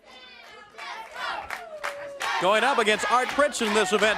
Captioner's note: crowd cheering